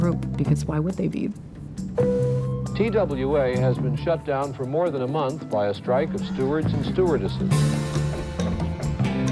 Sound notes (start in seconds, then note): 1.3 sign chimes